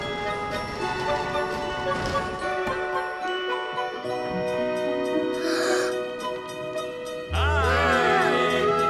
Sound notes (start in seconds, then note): 5.4 gasps